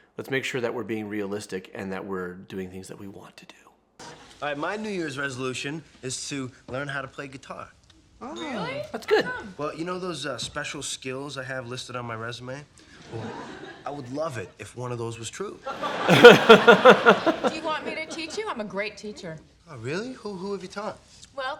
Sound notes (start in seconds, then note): 15.7 audience laughs; 15.9 laughs